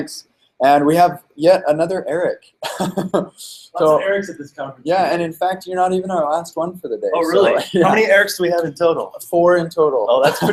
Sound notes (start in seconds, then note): 2.9 voiceover